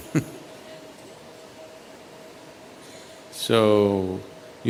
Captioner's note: chuckles